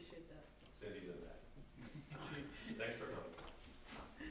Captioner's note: background laughter